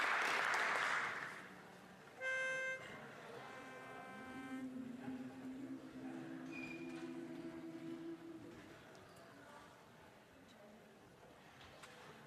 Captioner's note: applause